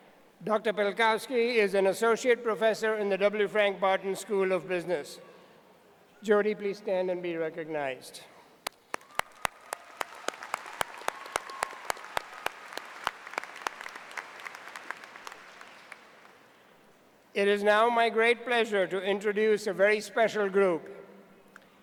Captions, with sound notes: PELKOWSKI IS AN ASSOCIATE PROFESSOR IN THE W. FRANK BARTON SCHOOL OF BUSINESS. JODI, PLEASE STAND AND BE RECOGNIZED. (APPLAUSE.) IT IS NOW MY GREAT PLEASURE TO INTRODUCE A VERY SPECIAL GROUP.